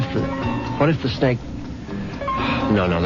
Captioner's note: phone rings